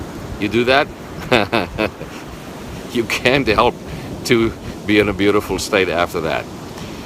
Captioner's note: chuckling